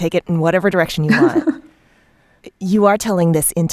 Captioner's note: laughter